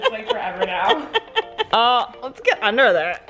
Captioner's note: laughing